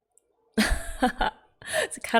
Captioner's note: laughs